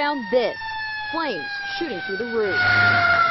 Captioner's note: sirens